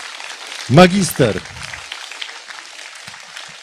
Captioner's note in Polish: oklaski